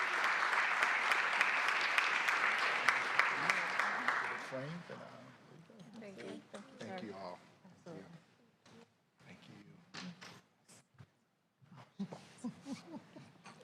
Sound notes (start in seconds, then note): 7.0 applause